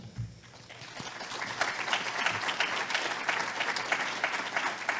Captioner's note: audience applauding